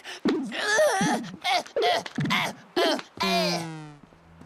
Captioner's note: groaning